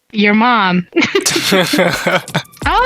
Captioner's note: both laughing